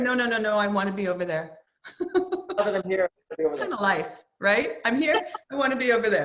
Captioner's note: laughs; Kurt laughs